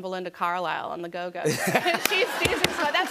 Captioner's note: laughter